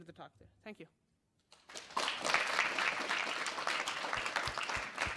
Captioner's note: applause